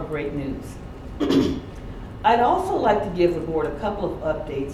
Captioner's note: clears throat